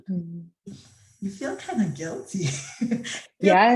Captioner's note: chuckles